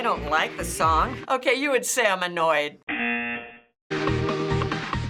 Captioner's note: buzzer